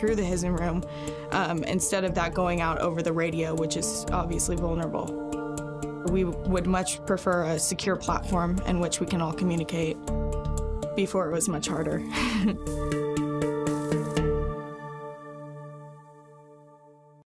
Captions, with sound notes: through the HSIN room instead of that going out over the radio, which is obviously vulnerable. We would much prefer a secure platform in which we can all communicate. Before it was much harder. (laughs) (slow intense music)